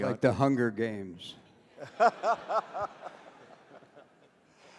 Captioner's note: laughter